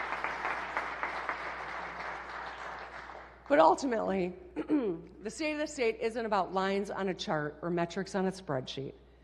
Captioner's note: applause